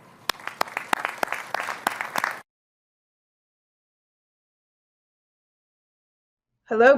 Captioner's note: applause